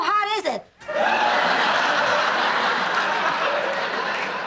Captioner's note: audience laughing